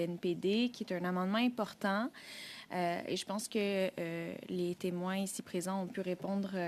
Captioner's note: speaking French